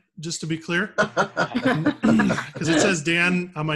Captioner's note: laughing